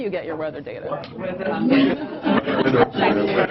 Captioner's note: audience chatter